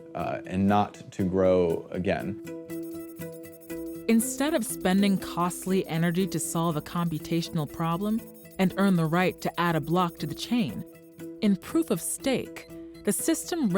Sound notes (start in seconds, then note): 2.3 beeping